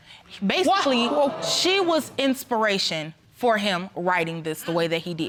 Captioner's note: audience groans